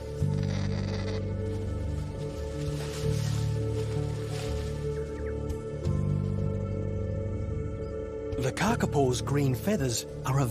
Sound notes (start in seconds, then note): 0.3 kakapo cawing